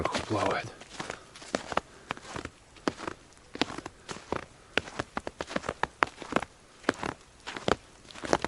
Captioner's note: footsteps in the snow